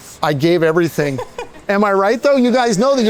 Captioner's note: chefs chuckling